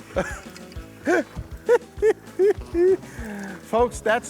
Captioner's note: laughing